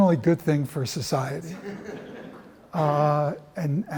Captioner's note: laughter